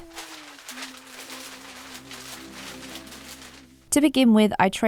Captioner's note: paper crinkles loudly